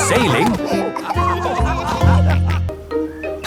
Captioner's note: all laughing